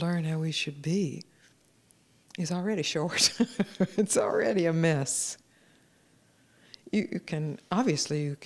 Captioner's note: laughter